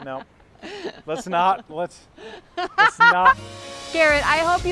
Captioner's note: laughing; laughing